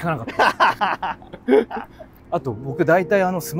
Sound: laughing

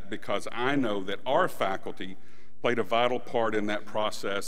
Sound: none

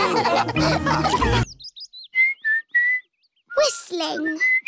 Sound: all laughing; whistling

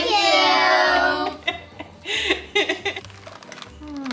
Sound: laughing noises

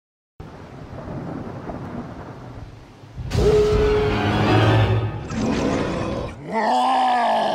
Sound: thunder & dramatic music

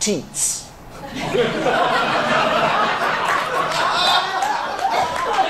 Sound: audience laughs

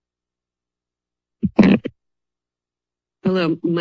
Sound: microphone thuds

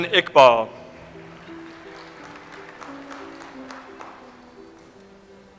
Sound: audience applauds

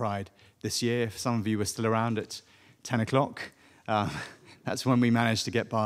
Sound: chuckles

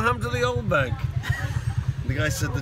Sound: laughs

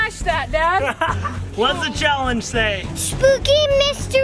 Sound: laughs

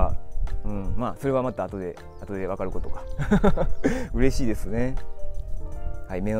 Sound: laughs

